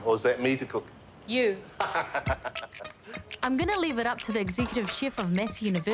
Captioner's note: laughs